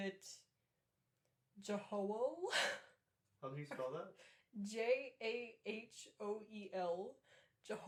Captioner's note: laughter